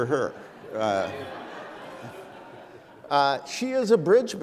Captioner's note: laughs